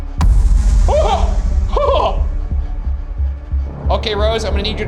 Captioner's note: exclaiming